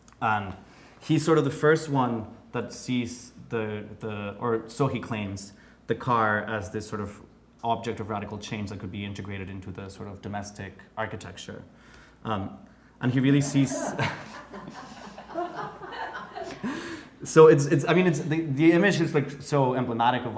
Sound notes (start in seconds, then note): 13.2 laughing